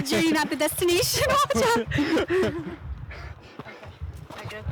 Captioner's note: laughing